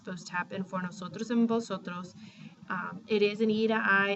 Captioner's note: spanish